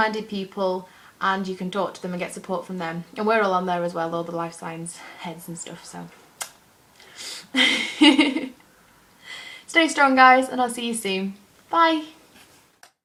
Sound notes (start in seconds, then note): 7.5 laughs